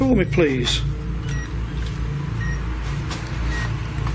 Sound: beeping

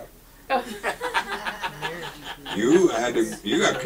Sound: audience laughs

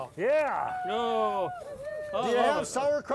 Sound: crowd cheers

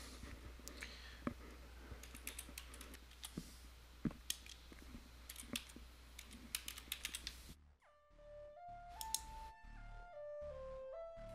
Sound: sound of typing

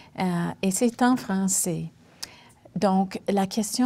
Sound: speaking French

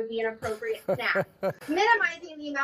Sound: interviewer laughing

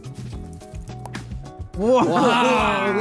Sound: water splashing

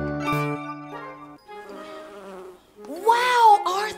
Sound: bees buzzing

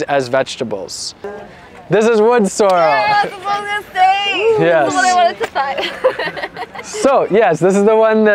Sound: audience comments

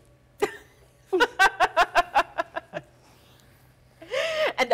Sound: softly laughing

